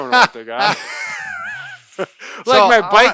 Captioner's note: laughs